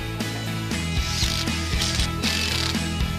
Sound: drilling

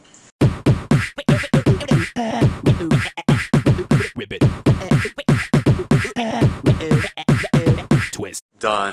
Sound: beatbox battle

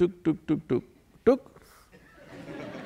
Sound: laughter

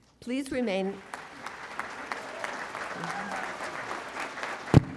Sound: audience applauds and cheers

